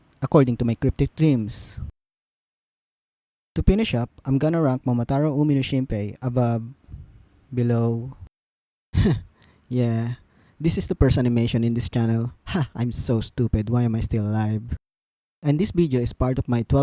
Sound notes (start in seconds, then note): 9.0 snigger